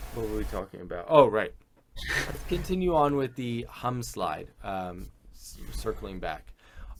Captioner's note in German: lachend